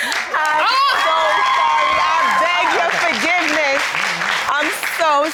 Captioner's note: audience cheering